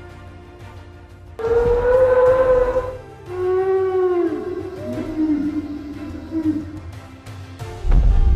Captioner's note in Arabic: أصوات Brachiosaurus; أصوات الدوس Brachiosaurus